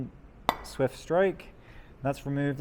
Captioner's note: metal hammering